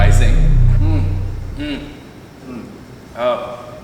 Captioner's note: grunting